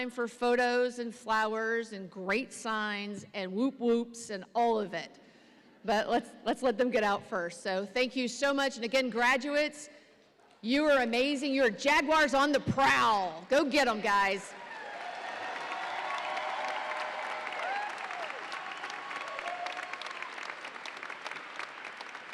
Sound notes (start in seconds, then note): 14.6 audience applauds and cheers